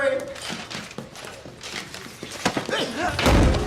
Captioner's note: footsteps, paper rustling